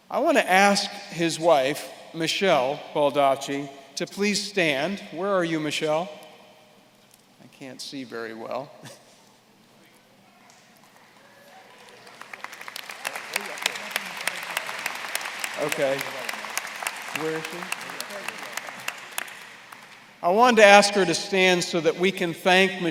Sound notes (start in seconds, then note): 11.4 applause